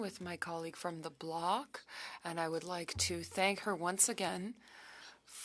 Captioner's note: speaking French